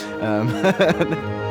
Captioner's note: orchestra music; laughter